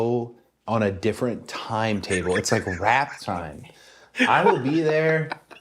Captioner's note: laugh